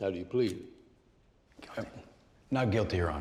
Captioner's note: whispering